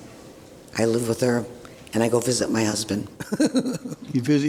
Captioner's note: laughs